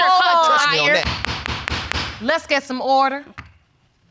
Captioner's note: gavel bangs